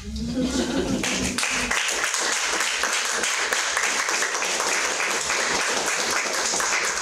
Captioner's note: light audience laughter; sustained audience applause